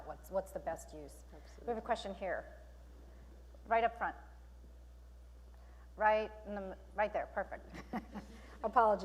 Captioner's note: chuckling